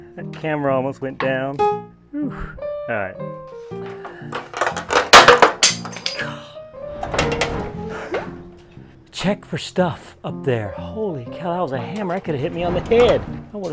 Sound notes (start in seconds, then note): 3.8 light piano; 4.2 crashing